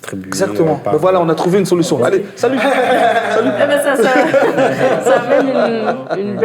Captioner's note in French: rires